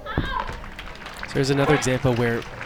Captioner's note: crowd applauds